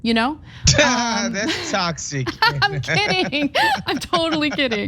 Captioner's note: laugh